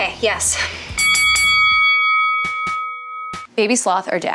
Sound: bell dings

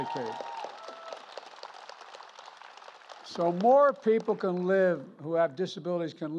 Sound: applause

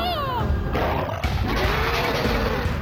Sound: growls; roars

